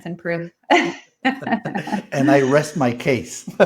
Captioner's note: laugh